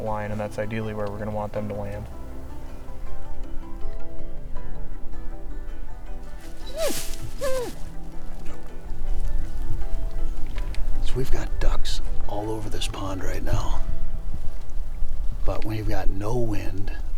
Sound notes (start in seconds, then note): 6.6 dog whimpers